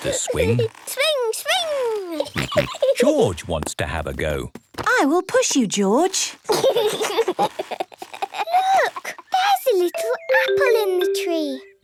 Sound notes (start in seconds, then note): 2.0 giggling and snorting; 6.4 George giggling